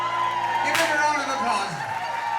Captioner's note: guests cheering